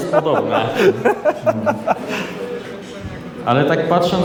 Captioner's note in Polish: śmiech